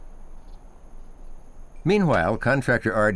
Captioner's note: nature sounds